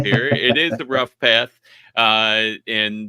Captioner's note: laughing